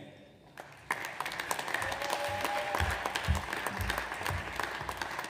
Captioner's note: audience applauds